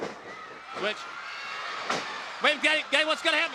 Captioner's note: audience cheering